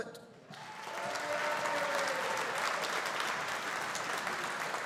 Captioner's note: audience applauding